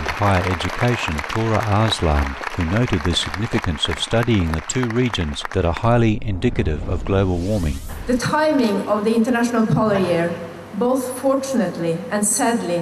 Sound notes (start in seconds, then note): 7.3 speech in English